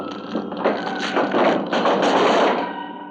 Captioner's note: door banging